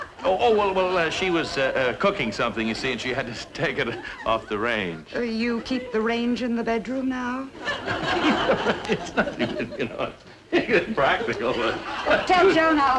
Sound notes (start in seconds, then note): 7.5 audience laughing; 8.2 Brad laughing nervously